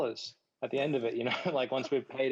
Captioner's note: panelists chuckles